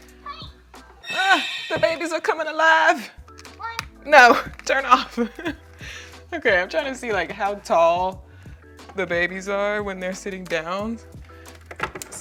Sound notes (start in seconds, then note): 5.1 laughing